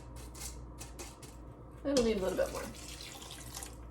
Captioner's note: pouring liquid